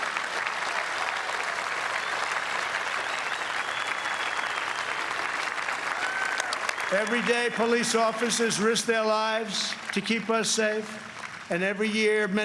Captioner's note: applause